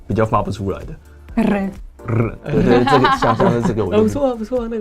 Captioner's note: polish sound